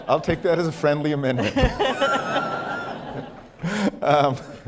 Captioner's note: laughter